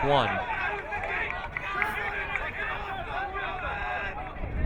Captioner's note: crowd yelling